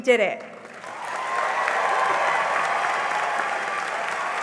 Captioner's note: cheering and applause